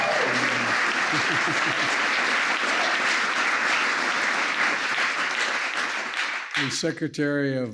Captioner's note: applause